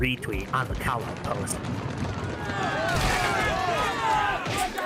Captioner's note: yelling in anger